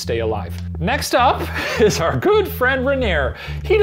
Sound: laughs

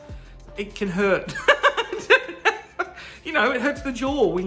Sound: laughs

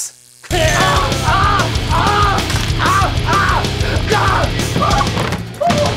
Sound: shrieks

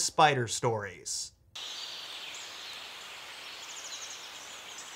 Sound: birds chirping

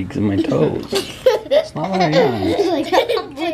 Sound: laughter

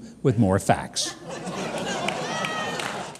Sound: crowd laughing

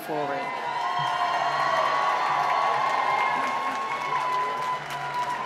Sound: cheering and applause

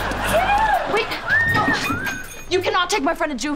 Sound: screaming

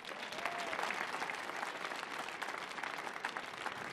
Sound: audience clapping

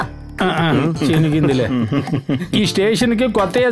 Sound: laughs

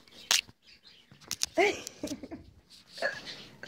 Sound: laughter

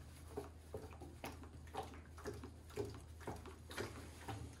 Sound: water sloshing

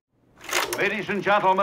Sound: film projector clicks

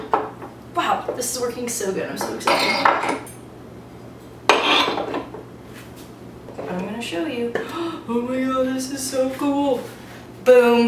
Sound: gasp

